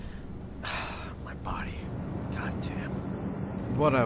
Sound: sigh

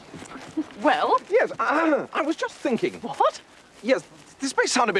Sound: clears throat

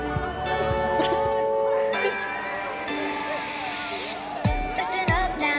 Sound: upbeat music; Harmony giggles

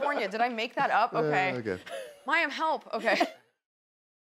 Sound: laughter

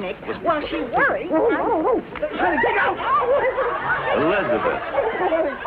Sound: muffled laughter

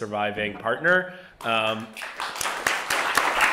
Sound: applause

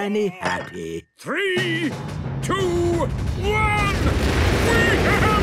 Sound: rockets igniting

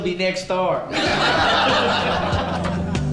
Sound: laughing

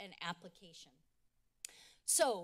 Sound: clicks tongue

